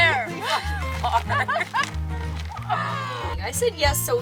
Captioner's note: both laugh